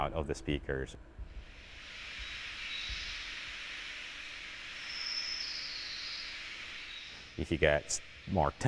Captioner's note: bird sounds